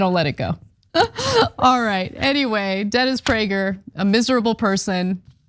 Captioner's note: laugh